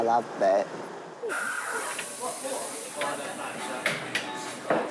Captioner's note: steam wand hisses